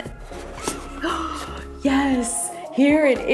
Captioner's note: gasps